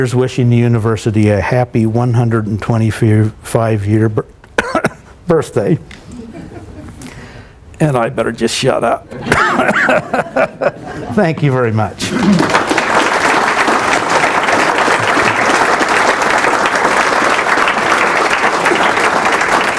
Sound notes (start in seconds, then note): 9.2 coughs; 12.1 applause